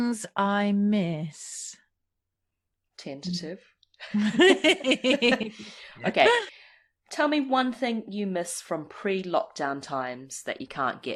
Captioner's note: laughs